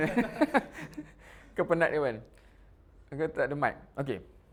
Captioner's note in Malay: ketawa